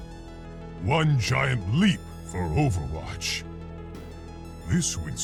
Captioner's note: voiceover